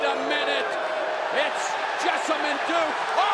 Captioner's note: crowd cheering